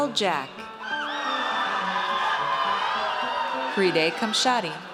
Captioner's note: audience cheers